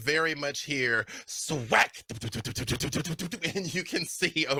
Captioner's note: roaring